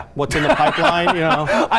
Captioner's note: laughing